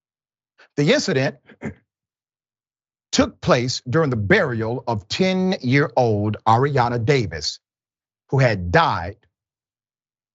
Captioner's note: cough